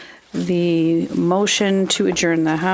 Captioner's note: speaking French